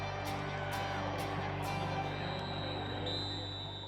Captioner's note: whistle blares